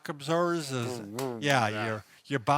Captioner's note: mouth noises to indicate motion